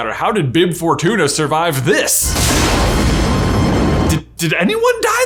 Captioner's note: loud explosions